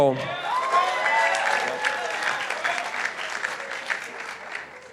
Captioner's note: participants applauding